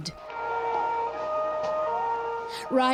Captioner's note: siren wails